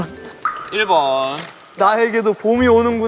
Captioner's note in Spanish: Emocionado